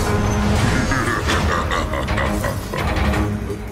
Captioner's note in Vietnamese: Cười gian xảo